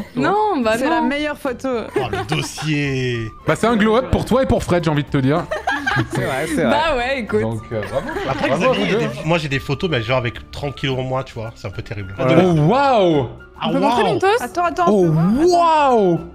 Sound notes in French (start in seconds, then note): 5.4 rires